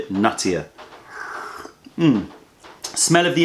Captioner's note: sips tea